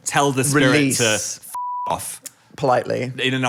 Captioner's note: beep